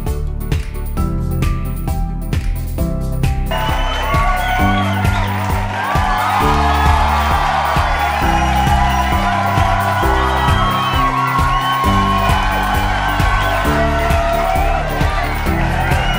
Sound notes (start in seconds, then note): 3.4 cheering and clapping